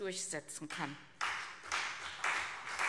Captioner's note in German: Beifall CDU und vereinzelt BÜNDNIS 90/DIE GRÜNEN